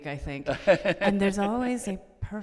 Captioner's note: Ron laughing